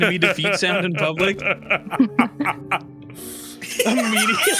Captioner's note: all laughing